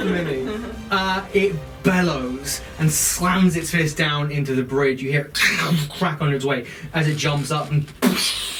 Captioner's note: cracking sound